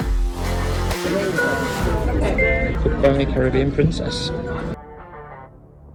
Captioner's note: BIng!